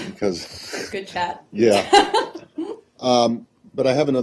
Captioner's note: laughter